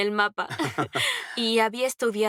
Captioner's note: laughs